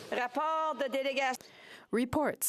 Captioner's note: speaking French